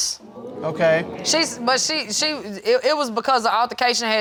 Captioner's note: crowd gasping